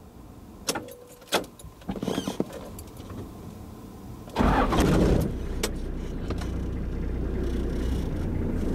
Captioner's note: engine starts